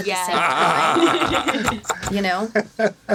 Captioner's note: laughing